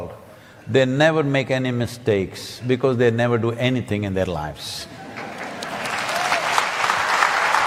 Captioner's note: laughter/Applause